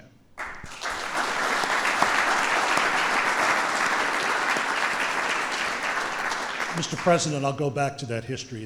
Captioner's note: applause